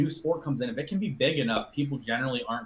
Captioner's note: logo popping